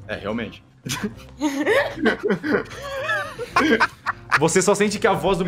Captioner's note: laughs